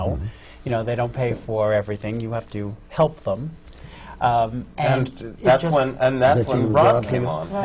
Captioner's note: none